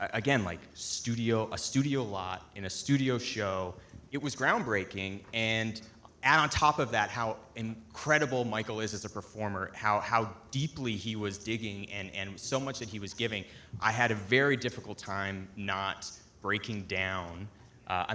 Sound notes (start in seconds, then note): none